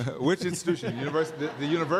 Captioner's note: laughter